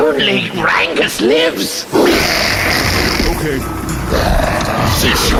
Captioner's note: hissing